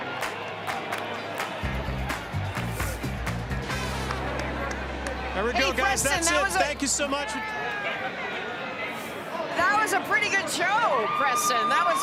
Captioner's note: cheering